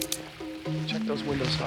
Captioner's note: guns cock